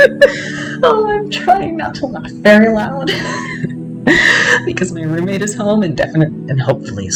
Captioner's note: laughter; laughter